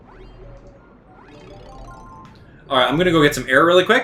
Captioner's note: game sounds